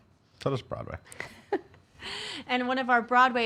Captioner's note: giggling